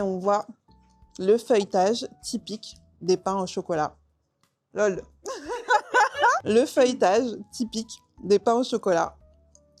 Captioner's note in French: rires